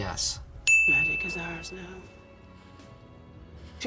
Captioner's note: ding